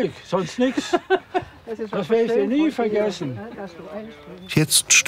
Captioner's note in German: Sie lacht